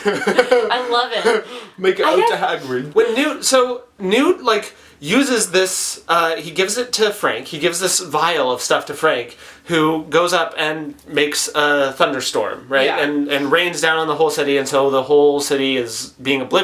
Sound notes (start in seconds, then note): 0.0 laughs; 1.5 British accent